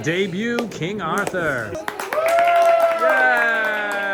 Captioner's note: all cheering